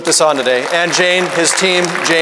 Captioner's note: audience applauding